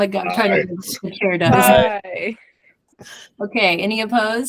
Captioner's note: multiple ayes